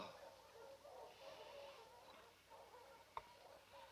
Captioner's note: dogs barking